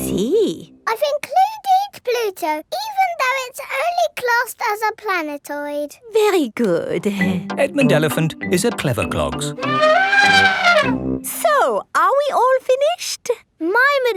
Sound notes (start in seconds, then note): 9.6 trumpeting